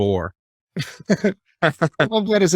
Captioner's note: laughing